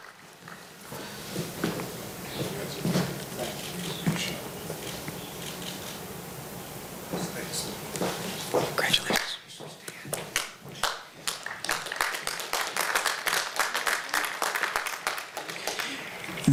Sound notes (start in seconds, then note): 10.7 applause